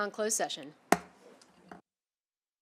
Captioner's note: gavel hitting dais; silence